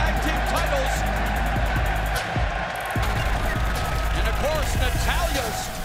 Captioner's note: crowd cheering